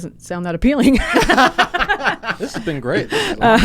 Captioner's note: both laughing